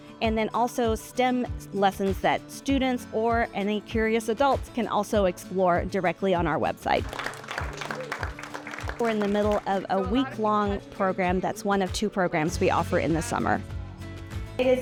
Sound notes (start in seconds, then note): 7.0 participants applauding